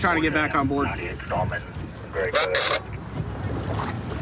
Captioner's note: radio communication